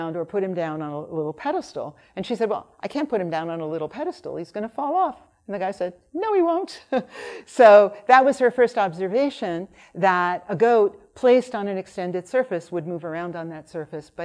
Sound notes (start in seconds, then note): 6.7 laughs